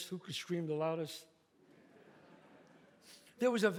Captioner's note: audience laughs